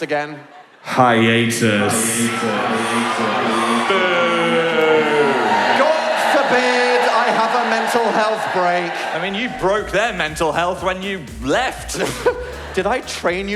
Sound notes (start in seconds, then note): 5.2 audience boos